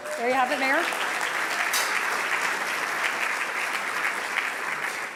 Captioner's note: audience applauding